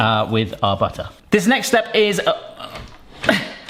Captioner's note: laughs